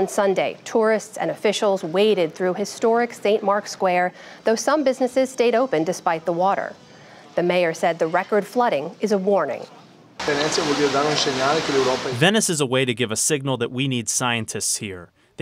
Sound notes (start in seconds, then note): 11.3 through translator